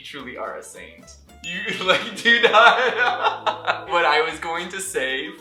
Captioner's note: laughter